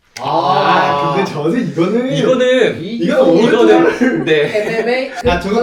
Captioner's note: commotion from the first bracket